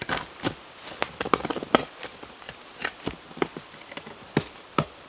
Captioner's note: tree roots crunching